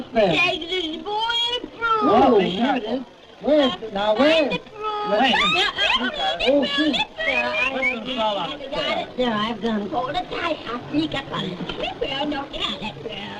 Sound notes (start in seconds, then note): 7.0 squeals; 7.3 whistling